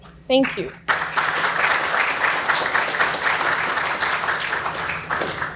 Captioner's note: applause